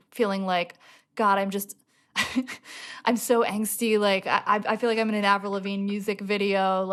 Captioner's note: laughter